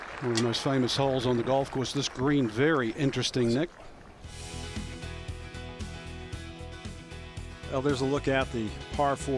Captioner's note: applause